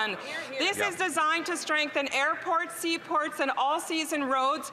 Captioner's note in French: voix de l'interprète